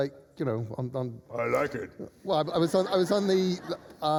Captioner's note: deep voice